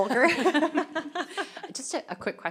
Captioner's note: laughter